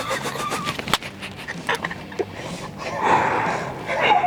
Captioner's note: both chuckling